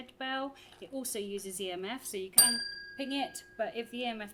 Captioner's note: bell dings